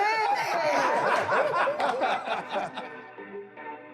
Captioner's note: laughter